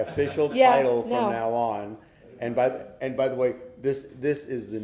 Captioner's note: laughter